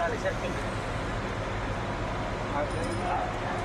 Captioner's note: indistinct chatter